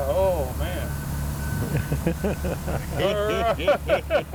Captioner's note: laughs